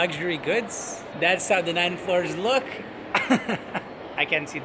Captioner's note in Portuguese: risos